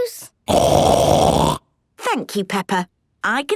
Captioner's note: loud snort